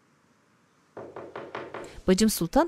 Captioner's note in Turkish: Kapı vurma sesi